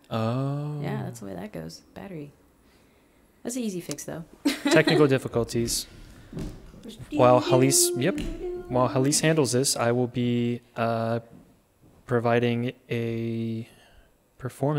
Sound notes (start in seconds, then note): 4.4 laughing; 6.9 humming